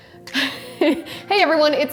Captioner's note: relaxed music; laughs